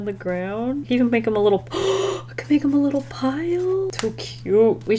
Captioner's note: gasps